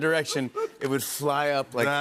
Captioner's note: laughter